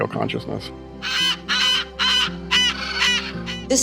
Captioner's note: parrots squawking